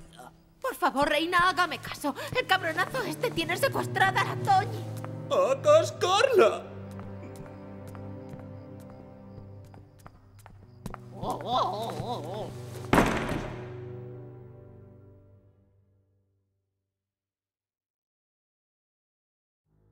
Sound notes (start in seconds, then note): 11.1 door slams, sound reverberates; 11.2 Erika cries